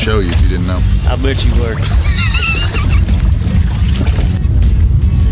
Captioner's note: laughs